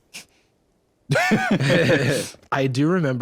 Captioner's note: both laugh